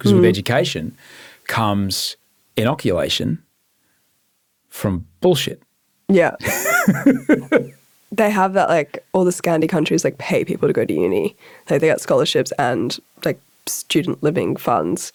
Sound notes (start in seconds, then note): 6.4 laughing